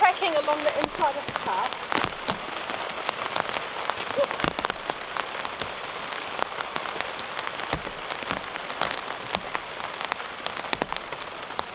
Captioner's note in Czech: zvuky deště